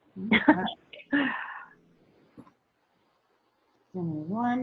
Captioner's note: laughs